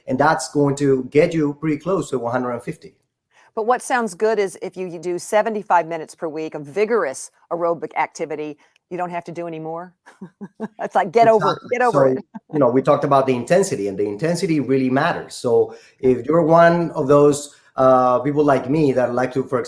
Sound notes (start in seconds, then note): 10.0 chuckles